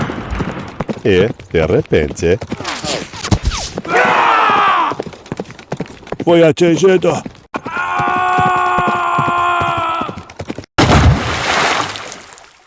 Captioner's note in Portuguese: grito